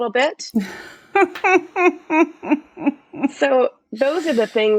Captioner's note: laughs